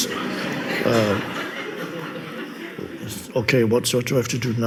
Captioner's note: audience laughs